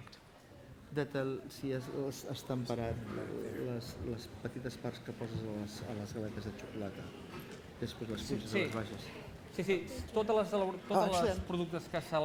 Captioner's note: non-english speech